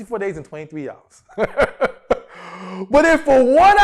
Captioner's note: laughs